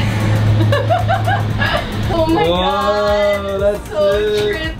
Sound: laughs

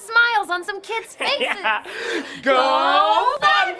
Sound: laughs

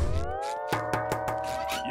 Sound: knocking

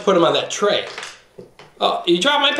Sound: clanking

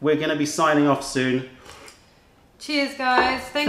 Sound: sips tea

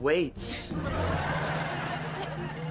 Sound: laughing

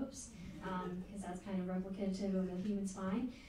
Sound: crowd giggling

